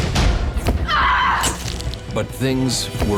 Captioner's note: screams